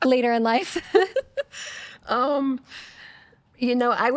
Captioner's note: laughing